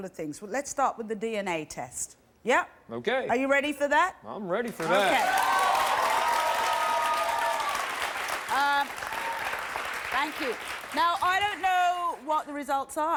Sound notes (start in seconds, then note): 4.7 audience applauds